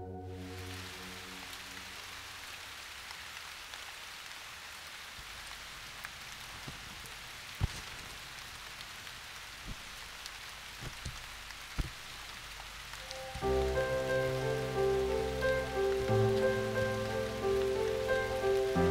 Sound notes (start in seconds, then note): 0.5 Raining